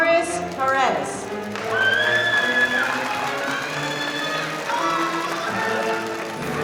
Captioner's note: audience applauding